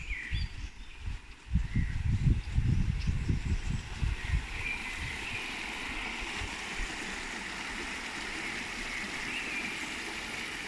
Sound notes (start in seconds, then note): 3.9 brook noise